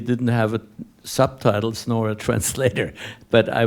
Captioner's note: laughing